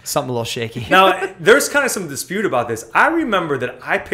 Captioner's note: laughter